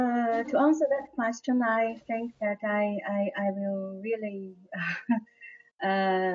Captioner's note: laughter